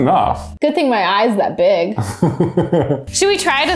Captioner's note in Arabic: يضحك